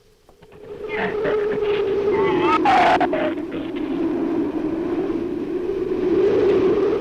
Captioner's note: wind howls; shrew snarls